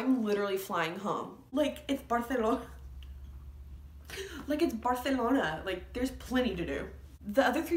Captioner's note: laughs